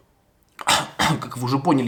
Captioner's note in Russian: наигранный кашель